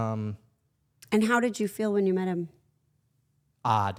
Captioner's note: laughs